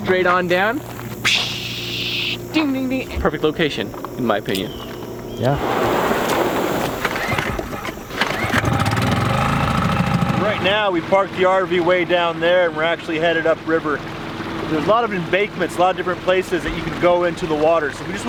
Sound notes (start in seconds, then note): 1.3 air whooshing; 5.4 water splashing; 7.0 engine revving